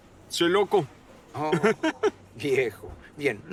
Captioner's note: laughs